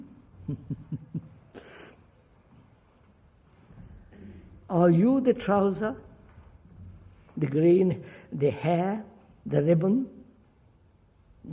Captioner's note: laughs